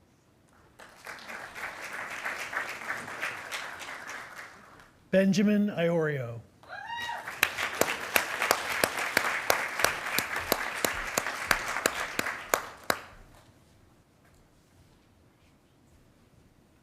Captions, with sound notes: (attendees applauding) Benjamin Iorio. (attendees applauding)